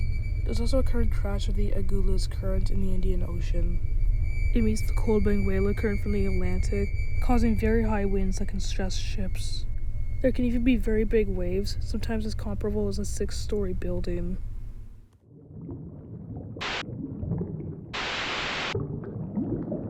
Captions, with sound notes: There’s also a current clash with the Agulhas Current in the Indian Ocean. It meets the cold Benguela Current from the Atlantic, causing very high winds that can stress ships. There can even be very big waves, sometimes as comperable as a six story building. (bubbling) (static) (static)